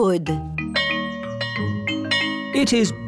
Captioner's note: bell chimes